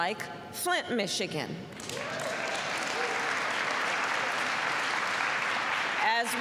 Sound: applause

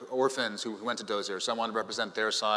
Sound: none

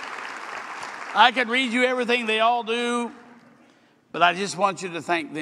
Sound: applause

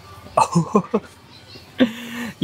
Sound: chuckles

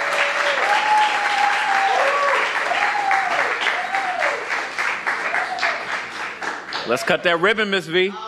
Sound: cheers and applause

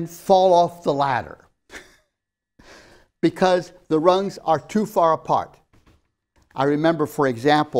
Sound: laughs

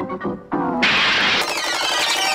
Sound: more crashing and clattering

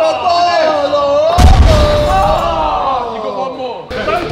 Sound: ball crashing

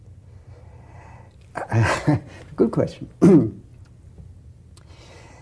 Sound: laughs

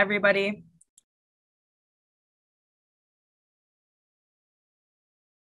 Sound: mouse clicking

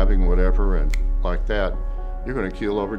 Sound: snaps

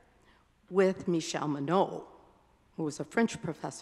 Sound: speaking in a foreign language

